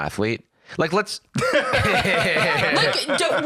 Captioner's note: both laughing